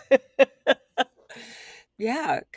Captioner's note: laughs